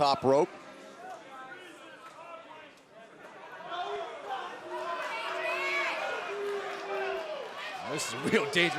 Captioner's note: crowd cheering